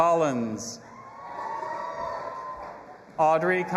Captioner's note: audience applauding and cheering